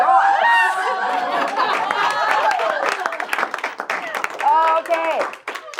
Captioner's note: audience cheering and applauding